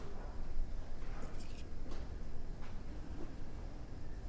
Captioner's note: cup rustles